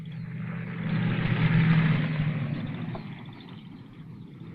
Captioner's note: engine rumbling